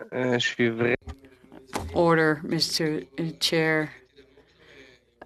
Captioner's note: speaking FRENCH